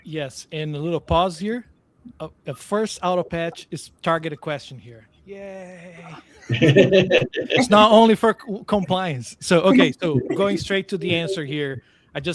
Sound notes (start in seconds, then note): 6.4 all laughing